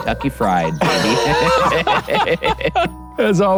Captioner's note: both laughing; chicken cawing